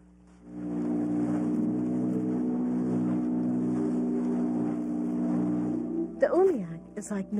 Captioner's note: boat engine roaring